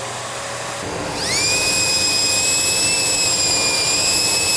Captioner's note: mechanical startup; even higher-pitched whirring